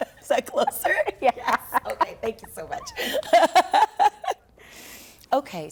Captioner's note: laughter